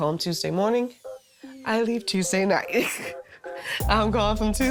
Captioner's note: laughs